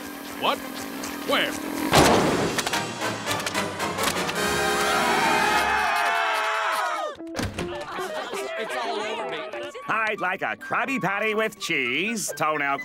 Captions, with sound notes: What? Where? [screaming] [complaining] It's all over me! I'd like a Krabby Patty with cheese, toenail clippings